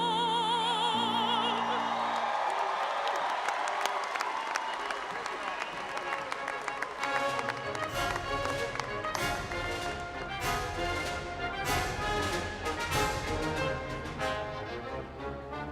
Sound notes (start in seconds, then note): 2.0 all applauding and audience cheering; 5.0 gentle orchestral music